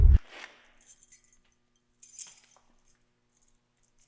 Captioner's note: static whirring; keys clanging